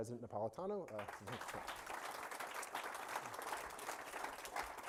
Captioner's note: audience applauding